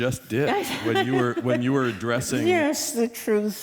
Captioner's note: laughter